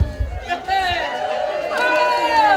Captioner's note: cheers